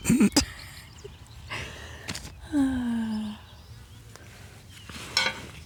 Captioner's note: sigh